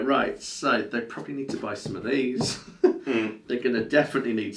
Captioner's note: chuckle